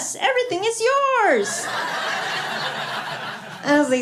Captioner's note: laughter